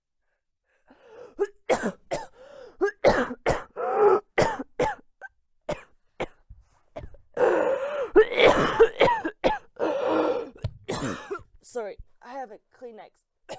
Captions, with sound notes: [serious coughing fit] Sorry, I have a Kleenex.